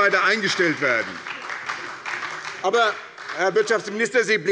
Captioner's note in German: Beifall bei der SPD